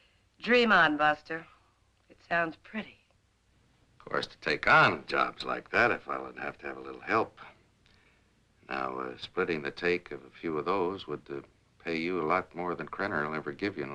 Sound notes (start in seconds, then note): none